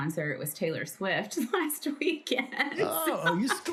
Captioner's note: laughs